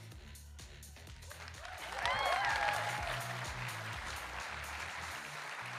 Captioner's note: audience cheering and applauding